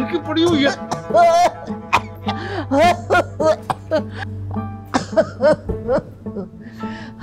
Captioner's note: coughs